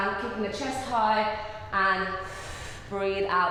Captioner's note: breathing